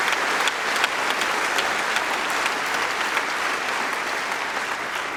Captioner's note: applause